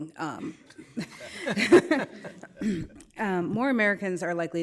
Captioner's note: all laughing